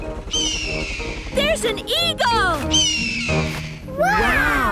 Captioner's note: eagle shriek; eagle shriek